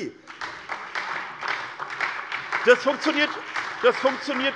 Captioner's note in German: Beifall SPD